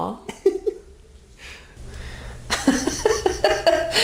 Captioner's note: laughing